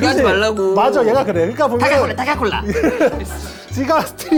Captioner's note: laughing too hard to talk